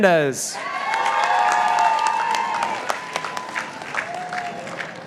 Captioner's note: participants applauding